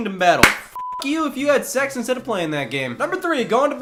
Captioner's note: clap